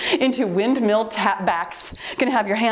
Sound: timer beeps

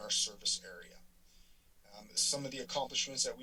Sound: silence

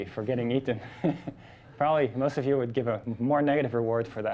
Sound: laughing

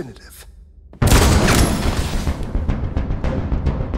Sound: gunshot

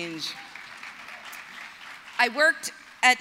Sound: applause

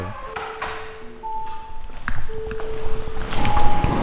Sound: metal clanking; eerie music

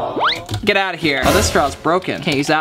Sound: audience sigh

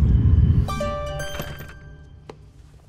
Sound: phone chimes

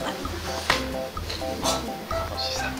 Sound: smack

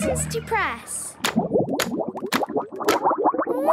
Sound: bubbling

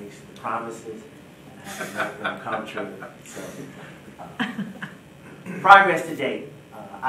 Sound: board members laugh

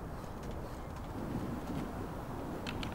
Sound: click

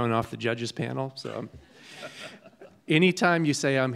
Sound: judges laughing

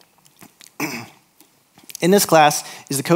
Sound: clears throat

